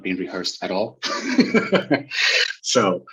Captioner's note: chuckles